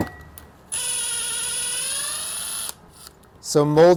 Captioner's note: tool whirring